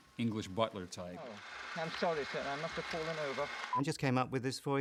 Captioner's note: British accent, muffled